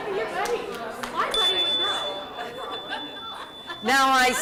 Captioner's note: chiming